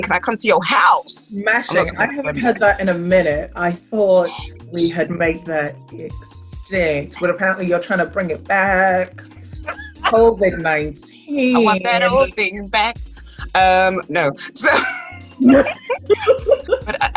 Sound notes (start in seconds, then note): 11.0 singsong; 14.5 laugh